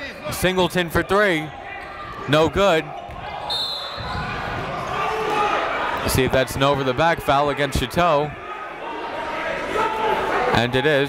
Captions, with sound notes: Obrey, Singleton for three. No good. (whistle blows) See if that's an over-the-back foul against Chateau.